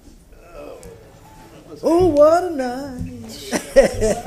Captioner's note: sounding gavel